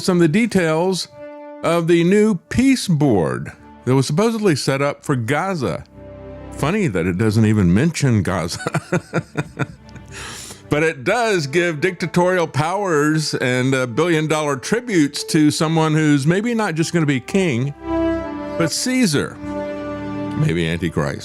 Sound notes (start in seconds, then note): 8.5 laugh